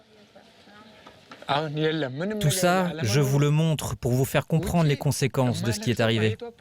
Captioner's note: speaking foreign language